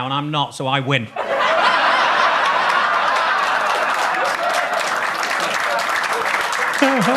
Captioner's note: audience laughs; audience claps